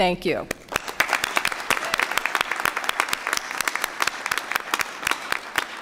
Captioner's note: applause